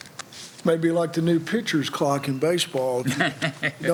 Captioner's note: laughter